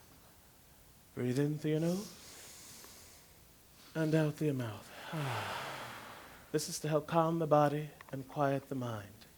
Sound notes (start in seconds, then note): 4.8 exhale